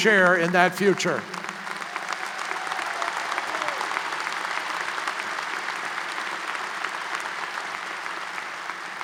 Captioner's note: applause